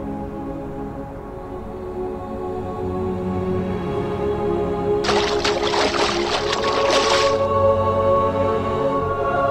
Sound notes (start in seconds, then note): 5.0 splashes